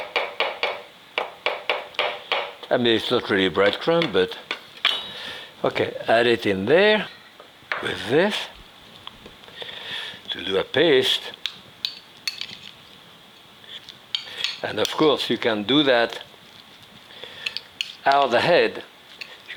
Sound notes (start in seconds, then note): 0.0 knife chopping; 12.3 utensil scraping